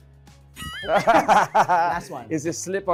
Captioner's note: laughs